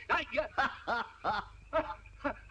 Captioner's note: laughs